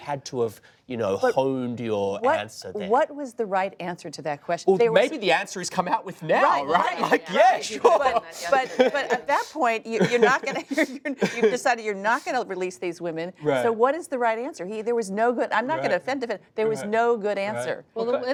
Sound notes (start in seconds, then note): 6.5 laughs